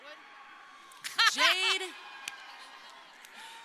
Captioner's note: crowd cheering; laughing